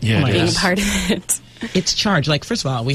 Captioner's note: laughs